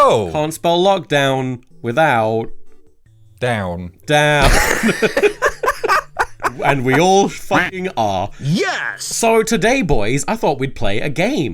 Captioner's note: all laugh